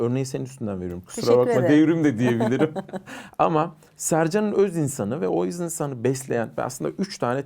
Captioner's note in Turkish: kahkaha